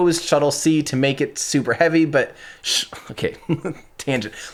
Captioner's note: chuckles